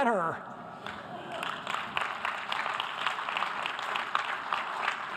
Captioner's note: audience applause